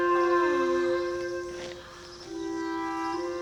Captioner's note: Lilly gasps